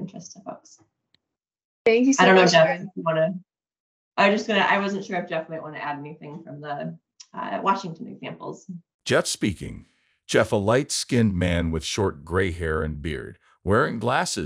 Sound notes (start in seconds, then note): 9.1 audio skips forward